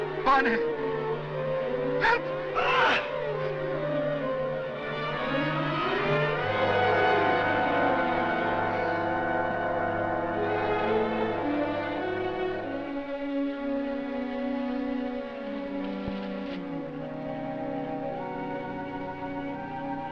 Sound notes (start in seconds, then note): 2.5 Van Gelder screams; 15.5 leaves rustling